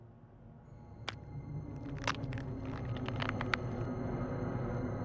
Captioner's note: bones cracking